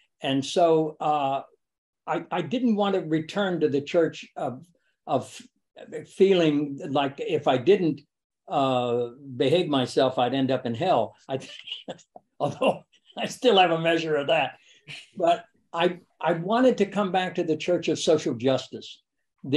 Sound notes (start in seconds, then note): 11.3 laughs